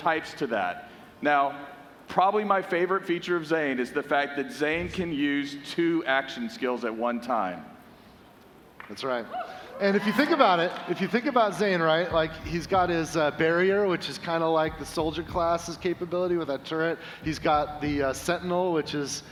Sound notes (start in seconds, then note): 10.6 applause